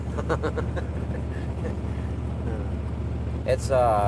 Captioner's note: chuckle